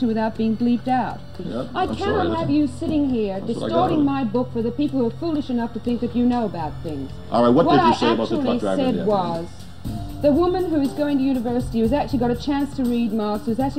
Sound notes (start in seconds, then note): none